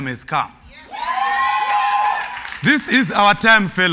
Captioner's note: cheers and Applause